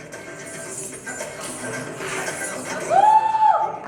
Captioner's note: coins jingling